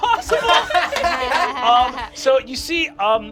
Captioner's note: they laugh